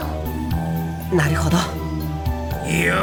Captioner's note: whisper